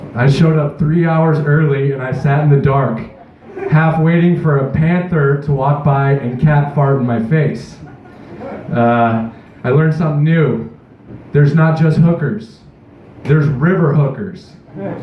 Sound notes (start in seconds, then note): 3.2 chuckles; 7.8 light Laughter, Chuckles